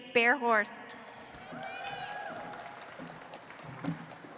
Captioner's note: audience applauds